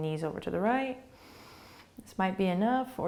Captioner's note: breathing